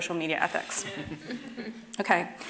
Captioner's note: laughing